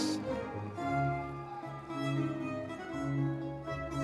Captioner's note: audience members cheering